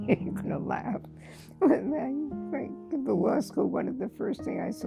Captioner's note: laughter